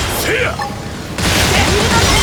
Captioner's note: yell